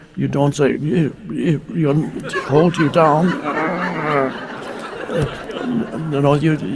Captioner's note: groans; audience laughing